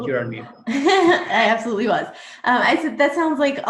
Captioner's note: laughs